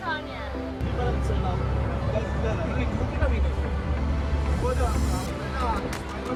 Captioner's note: speaking in foreign language